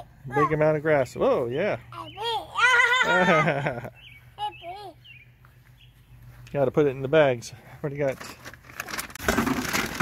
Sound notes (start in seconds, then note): 2.6 laugh